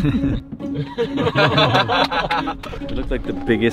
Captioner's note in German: Gelächter